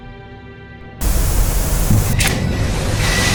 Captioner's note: static buzzing; rattling